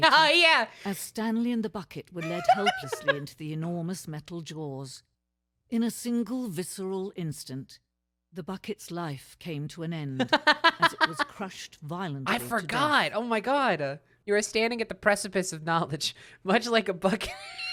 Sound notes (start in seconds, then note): 2.2 laughing; 10.2 laughing; 16.6 laughing throughout